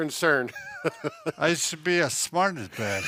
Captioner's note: laughs